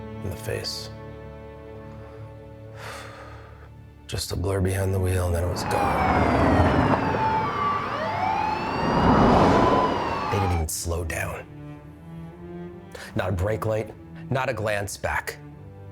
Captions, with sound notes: in the face. Just a blur behind the wheel and then it was gone. (sirens blaring) They didn't even slow down. Not a brake light, not a glance back.